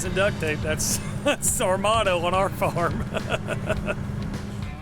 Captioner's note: laughing